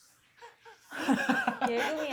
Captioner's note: laughter